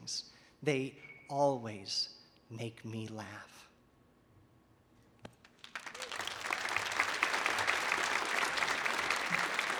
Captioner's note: audience applauding